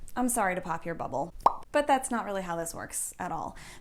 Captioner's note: pop